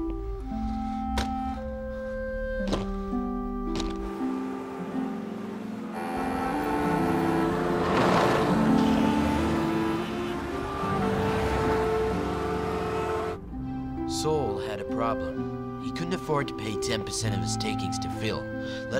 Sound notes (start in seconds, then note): 5.7 cars honking